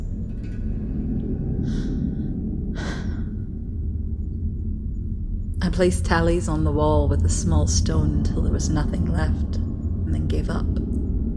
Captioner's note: pause sigh